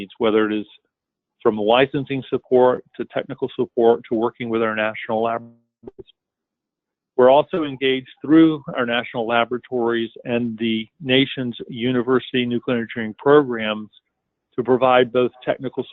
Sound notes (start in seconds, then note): 7.2 break in audio